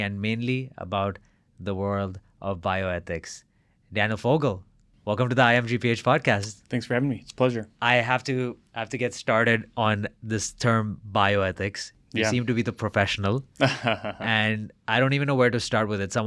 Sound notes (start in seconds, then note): 13.6 laughs